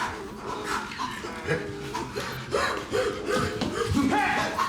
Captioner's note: Gaetanis panting exhausted; Donkey's bray